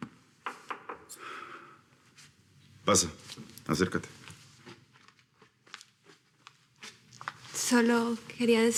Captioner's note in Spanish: Toques en la puerta